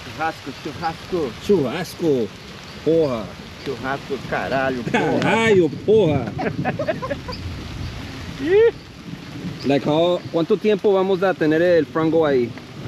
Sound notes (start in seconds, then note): 3.7 speaking Portuguese